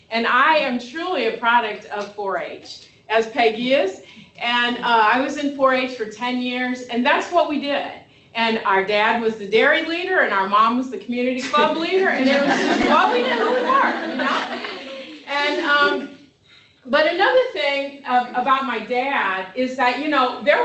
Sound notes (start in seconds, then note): 15.0 laughter